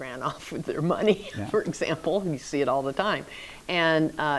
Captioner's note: laughs